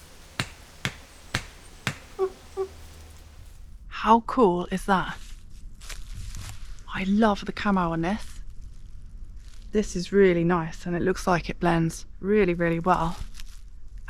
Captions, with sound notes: *tap tap tap tap* *chimp noises* how cool is that I love the camo on this this is really nice, and it looks like it blends really, really well